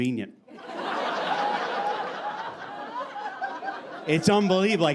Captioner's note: audience laughing